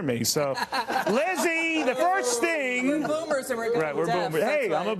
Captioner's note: laughter